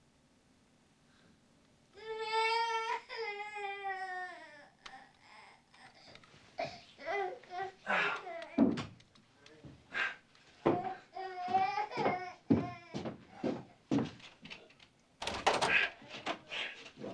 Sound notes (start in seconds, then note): 2.0 baby crying; 6.8 groaning; 14.2 panting